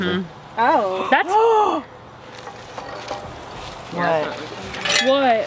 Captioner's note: gasps